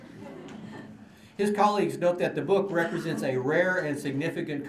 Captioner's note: laughter